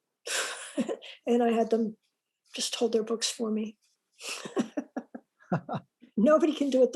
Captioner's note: laughs